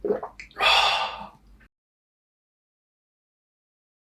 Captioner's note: sighs